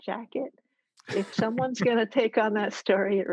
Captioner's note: all laugh